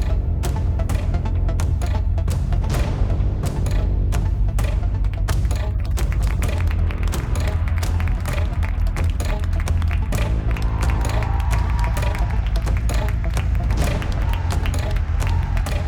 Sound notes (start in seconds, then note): 4.9 applause; 10.1 loud cheering